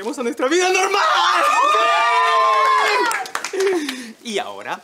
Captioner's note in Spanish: Gritos